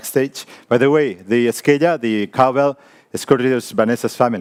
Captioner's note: speaks in foreign language